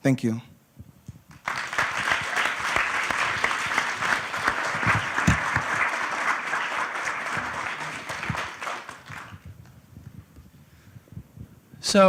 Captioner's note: applause